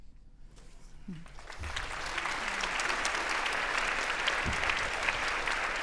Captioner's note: audience applauding